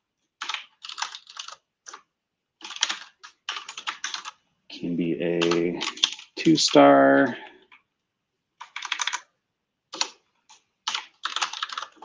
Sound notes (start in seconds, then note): 0.4 typing; 8.3 typing